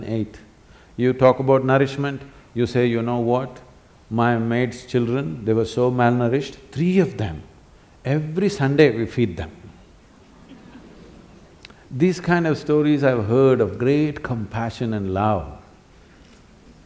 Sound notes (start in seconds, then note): 10.2 laughter; 15.4 laughs